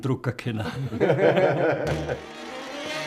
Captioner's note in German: lacht